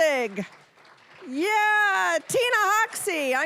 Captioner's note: cheering, applause